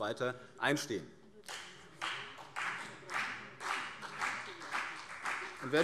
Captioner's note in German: Beifall CDU und BÜNDNIS 90/DIE GRÜNEN